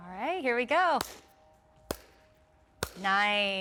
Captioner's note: hands clapping to dance rhythm